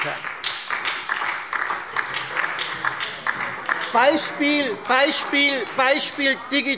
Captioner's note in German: Beifall Freie Demokraten und vereinzelt SPD - Zurufe